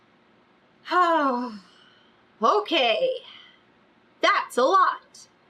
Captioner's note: sighs